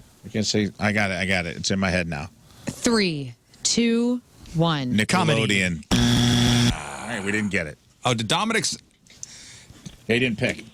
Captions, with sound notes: I can't say, I got it, I got it. It's in my head now. Three, two, one. Nick comedy. (Buzzer) All right, we didn't get it. Oh, did Dominik's, they didn't pick.